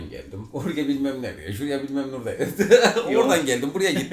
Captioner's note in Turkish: Gülme sesleri; Gülüşmeler